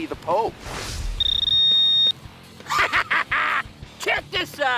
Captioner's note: yells; beeping